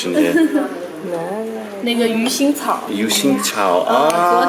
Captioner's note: laughter